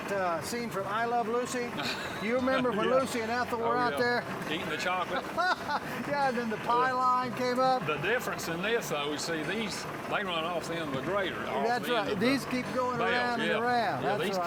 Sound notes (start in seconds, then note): 4.8 laughs